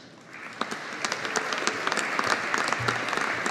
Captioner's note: audience applauding